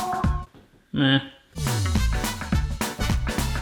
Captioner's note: upbeat music; groans; upbeat music